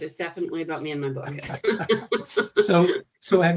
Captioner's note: chuckling